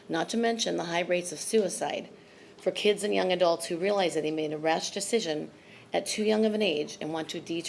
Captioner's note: none